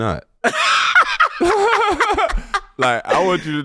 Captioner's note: laughing